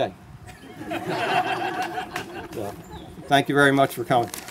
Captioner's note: laughter